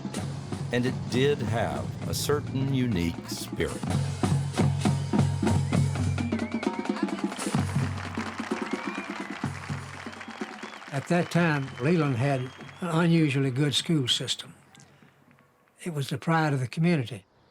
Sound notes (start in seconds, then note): 4.9 marching band continues; 6.5 crowd cheering and applauding